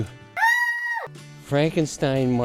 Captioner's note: scream